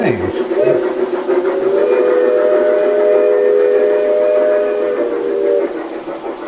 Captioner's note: steam train sounds